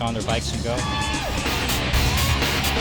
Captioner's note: cheering; action music